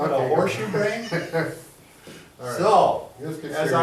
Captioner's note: laughs